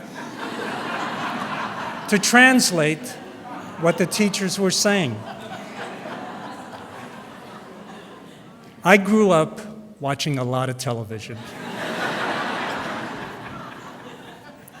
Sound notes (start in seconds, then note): 0.2 laughter; 11.3 laughter